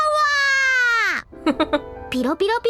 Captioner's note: chuckles